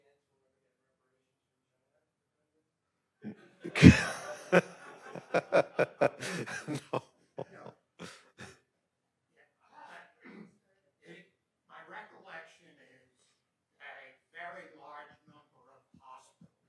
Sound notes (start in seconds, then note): 3.6 attendees laughing